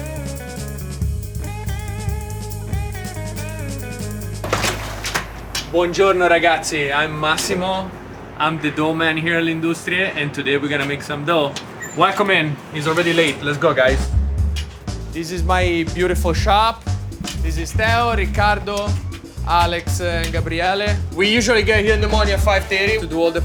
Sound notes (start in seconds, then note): 0.3 gentle music; 4.4 door clanging; 6.0 speaks in Italian; 14.6 upbeat music